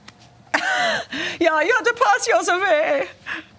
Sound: imitates German accent

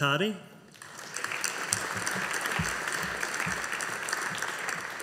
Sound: audience applauding

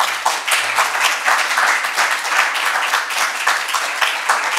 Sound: attendees applaud

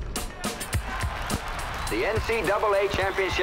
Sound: crowd cheers

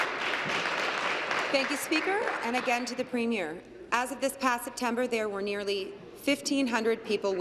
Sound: applause

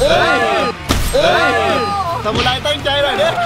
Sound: cheering

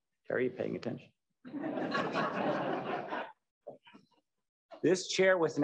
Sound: laughter

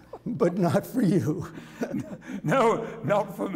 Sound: laughter

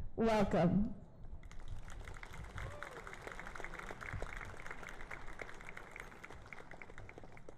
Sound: applause and Cheering

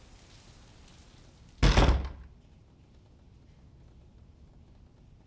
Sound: door slams

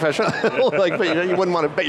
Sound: laughs

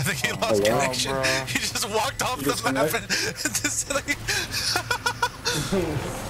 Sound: laughs histerically

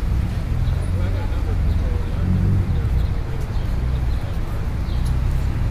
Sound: traffic rumbling; indistinct background chattering

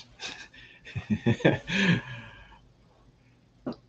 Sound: laughs

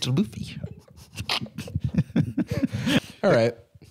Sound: giggling

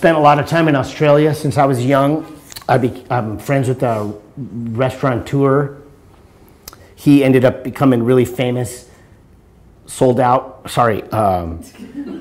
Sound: laughter

